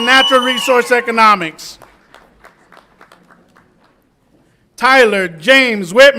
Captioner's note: audience applauds and cheers